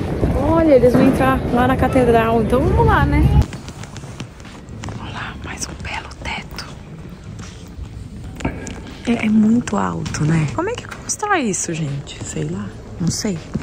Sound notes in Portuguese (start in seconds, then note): 4.7 sussurrando